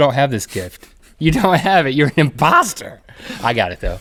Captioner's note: laughs